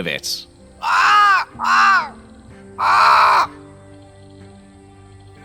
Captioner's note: cawing